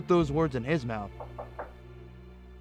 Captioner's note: knocking